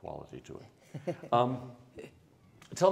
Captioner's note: laughs